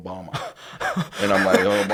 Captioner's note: laughs